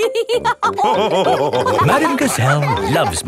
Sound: all laughing

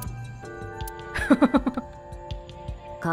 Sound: chuckles

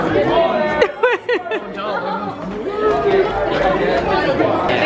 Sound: laughing

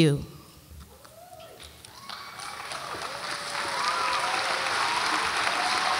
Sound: audience applauds and cheers

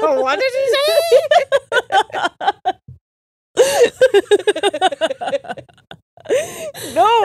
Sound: both laughing

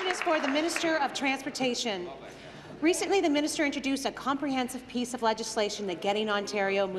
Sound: applause

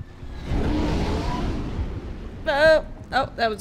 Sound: rocket blaring

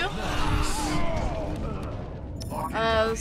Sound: scattered groans

